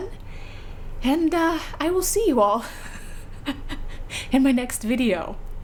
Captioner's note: laughs